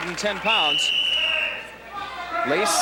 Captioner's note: whistle blowing